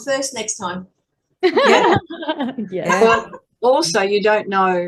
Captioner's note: everyone is laughing